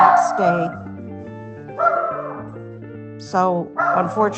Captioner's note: barking